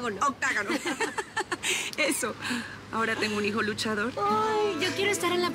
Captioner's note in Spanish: Risas